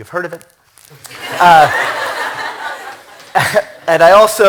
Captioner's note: laughter